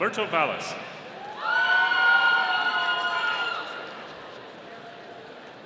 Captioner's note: audience cheering